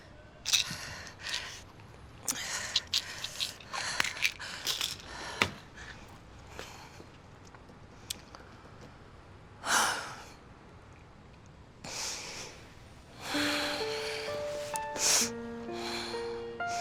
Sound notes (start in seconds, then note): 9.7 Kate sighs; 13.2 dramatic piano